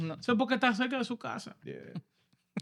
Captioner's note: speaking In Foreign Language